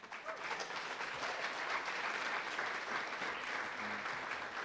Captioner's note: audience applauding